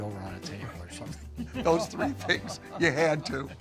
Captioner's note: laughing